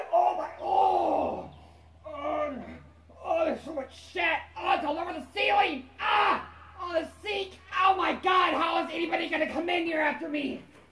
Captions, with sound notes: OH MY- OHHHHH! ARHG NO ARGH THERE'S SO MUCH SHIT AHHHH IT'S ALL OVER THE CEILING! *screams* AHHHH! ON THE SINK OH MY GOD how is anyone gonna come in here after me?